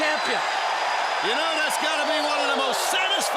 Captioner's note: crowd cheering